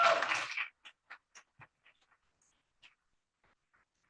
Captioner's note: cheers, applause